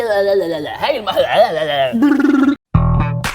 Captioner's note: mumbling